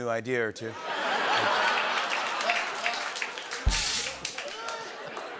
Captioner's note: laughter and applause; rimshot